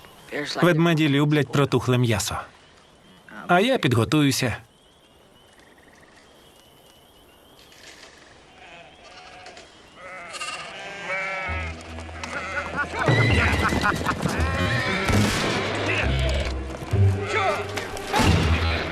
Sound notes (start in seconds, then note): 7.1 gunshots; 7.1 men laughing; 7.1 sheep bleating; 7.5 branches cracking